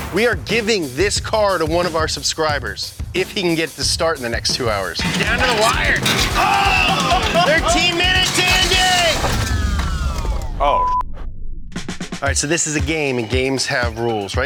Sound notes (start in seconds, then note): 5.0 people yelling; 10.7 beep